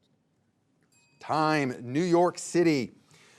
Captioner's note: bell rings